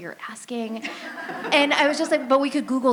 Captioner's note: laughter